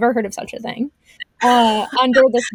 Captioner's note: laughs